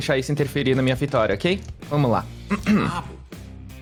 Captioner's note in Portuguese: limpa a garganta